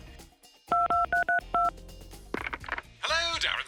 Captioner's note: dials phone